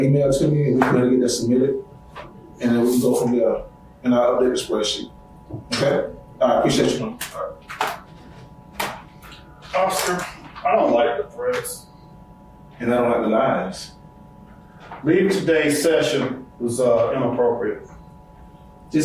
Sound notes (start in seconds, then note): 8.5 laptop shutting